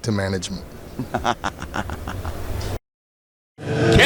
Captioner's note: cackles